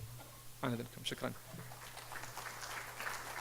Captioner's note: speaking in foreign language; audience applauding